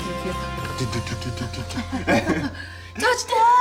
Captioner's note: laughter